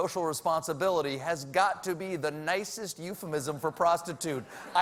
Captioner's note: laughter